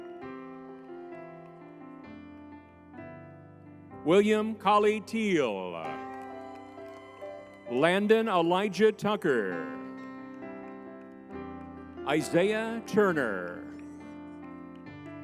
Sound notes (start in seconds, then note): 0.3 crowd cheers; 0.3 spirited music; 5.9 crowd cheering